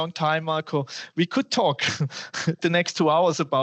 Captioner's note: laughter